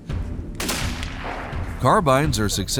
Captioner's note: gunshot